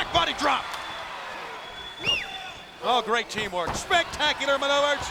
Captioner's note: applause